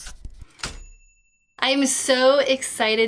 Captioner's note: typewriter dings